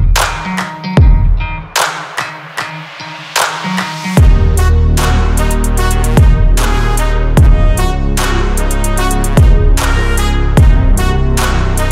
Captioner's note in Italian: Applauso